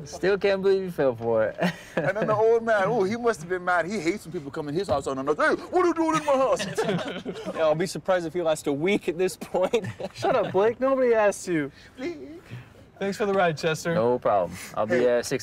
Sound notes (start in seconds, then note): 5.6 all laughing